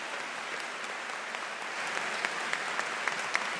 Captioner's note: cheers and Applause